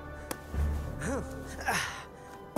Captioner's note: he grunts